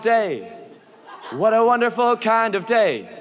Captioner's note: audience laughs